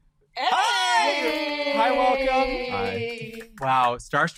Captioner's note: group cheering